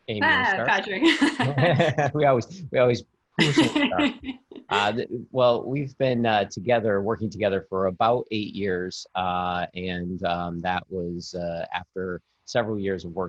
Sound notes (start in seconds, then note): 0.2 laughing